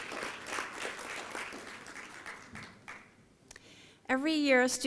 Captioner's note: applause